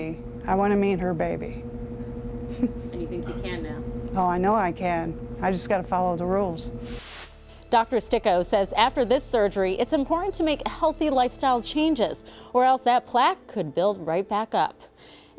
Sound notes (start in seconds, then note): 6.8 whooshing